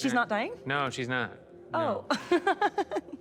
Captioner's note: laughs; chuckles